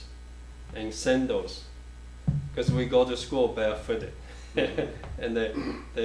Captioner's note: chuckles